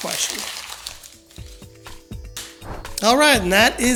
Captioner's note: paper crinkling; playful music